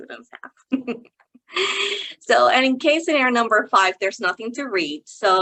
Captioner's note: chuckling